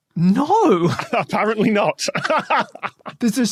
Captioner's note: laughs